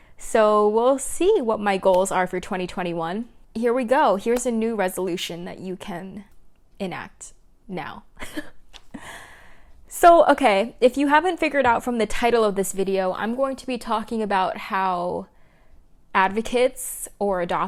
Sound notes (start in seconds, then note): 8.2 chuckles